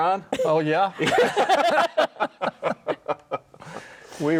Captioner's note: all laughing